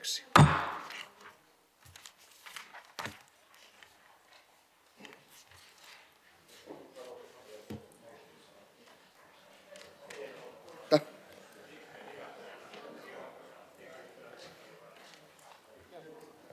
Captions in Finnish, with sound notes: ja kaupunginhallituksen pohjaesitys tulee valtuuston päätökseksi. [taustapuhetta]